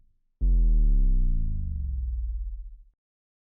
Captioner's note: power down sound